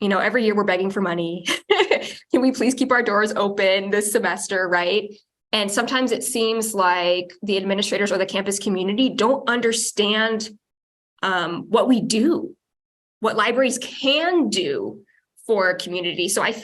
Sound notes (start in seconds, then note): 1.5 chuckles